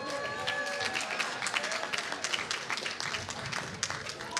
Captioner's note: applause